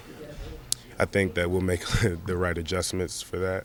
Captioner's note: laughing